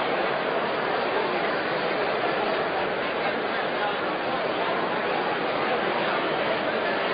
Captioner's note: crowd noise